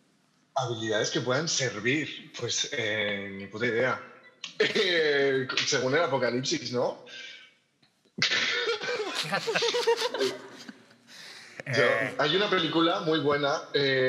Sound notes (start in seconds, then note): 8.2 laughter